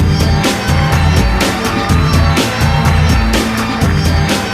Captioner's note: applause